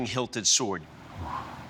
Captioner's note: exhales